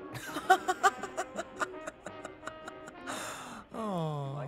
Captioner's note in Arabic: يضحك